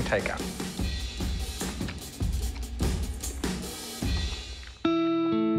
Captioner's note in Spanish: sonidos de comer